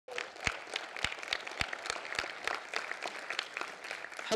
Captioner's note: audience applauding